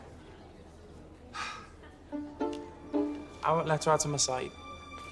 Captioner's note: sighs